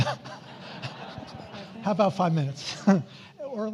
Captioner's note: audience laughs